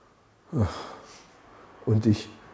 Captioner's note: sighs theatrically